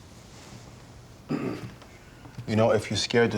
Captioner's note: clears throat